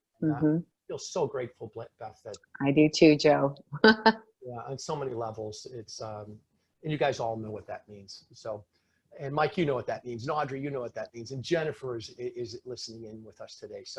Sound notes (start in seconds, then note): 3.8 laughing